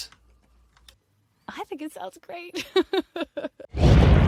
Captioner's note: chuckles